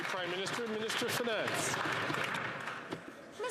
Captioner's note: some Applause